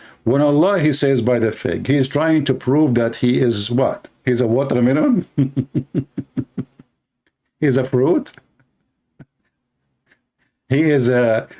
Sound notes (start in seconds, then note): 5.3 Ketawa